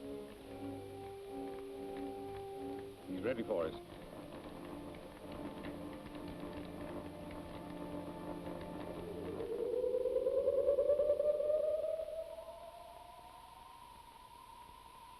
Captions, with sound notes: (light clicking) - He's ready for us. (device whirring)